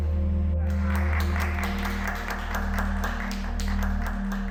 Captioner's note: applause